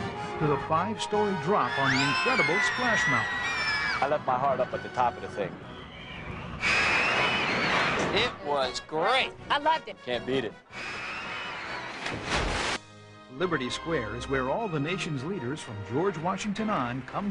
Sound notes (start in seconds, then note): 5.6 people screaming; 10.8 people screaming; 12.0 water splashing